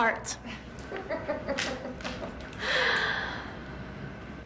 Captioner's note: Rachel laughing